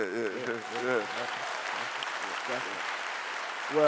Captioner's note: clapping